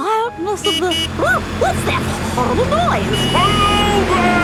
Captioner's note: honking